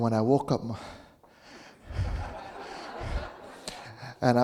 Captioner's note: audience laughing